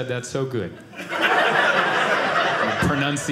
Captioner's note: audience laughing